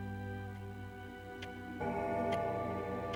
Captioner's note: clock Chiming